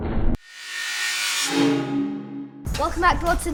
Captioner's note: metal whoosh